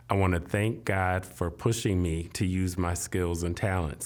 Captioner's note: none